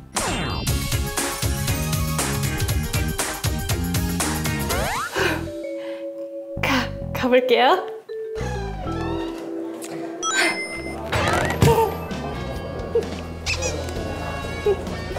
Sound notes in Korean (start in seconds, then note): 8.3 끼익; 10.2 심호흡+2